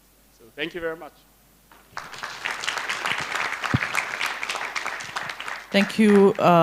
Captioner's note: applause